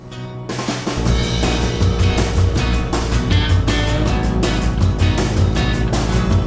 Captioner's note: motorbike roaring; upbeat music